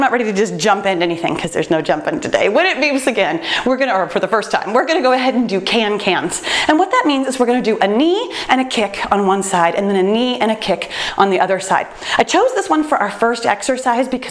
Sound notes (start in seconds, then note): none